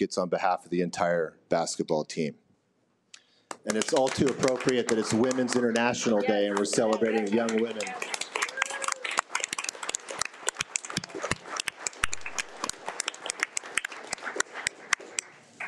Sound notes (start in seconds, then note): 2.6 audience applauds; 7.8 audience applauding